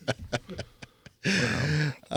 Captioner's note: laughing